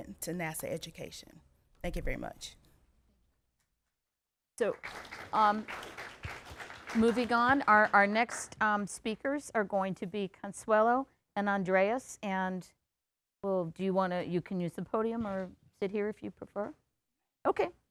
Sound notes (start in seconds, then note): 4.6 applause